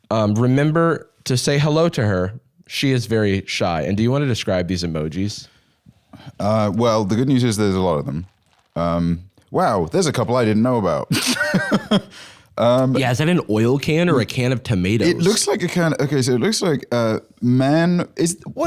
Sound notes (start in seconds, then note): 11.1 laughs